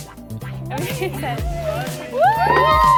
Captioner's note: upbeat music; group chattering